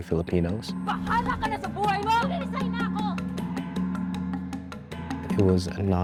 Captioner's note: workers speaking in foreign language